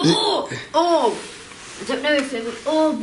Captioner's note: gasps